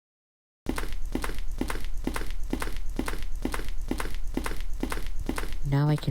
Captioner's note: footsteps